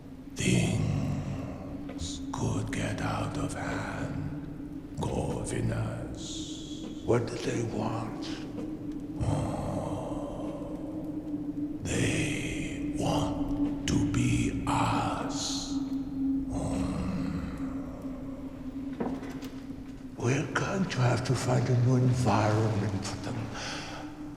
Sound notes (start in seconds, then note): 8.9 moans; 16.6 moans